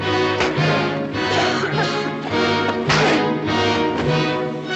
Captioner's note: coughing